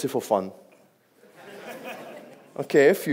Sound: audience laughs

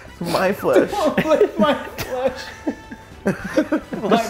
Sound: laugh

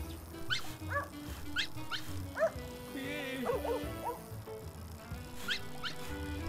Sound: bike tires clicking; dogs barking

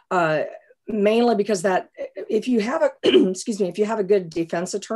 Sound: coughs

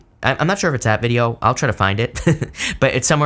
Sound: laughs

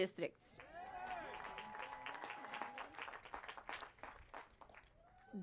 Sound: applause

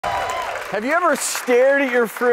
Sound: clapping

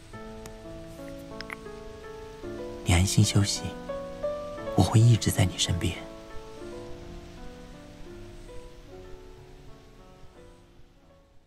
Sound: kisses

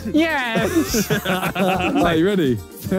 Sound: Simon and Josh laughing; Simon laughing

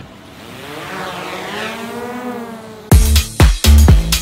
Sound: drone whirling; upbeat techno music

